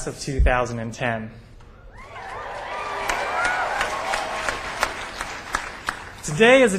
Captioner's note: applause